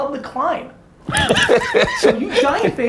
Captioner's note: Cha laughs